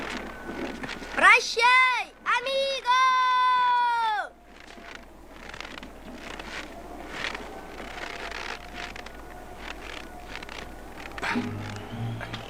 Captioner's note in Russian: крик